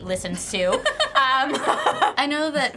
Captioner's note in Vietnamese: cả hai cùng cười